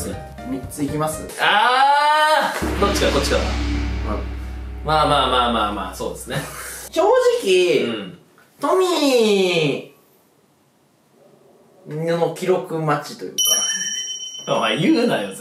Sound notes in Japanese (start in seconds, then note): none